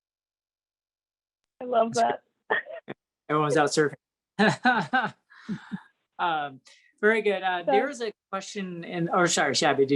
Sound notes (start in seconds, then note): 2.7 chuckles; 4.4 chuckles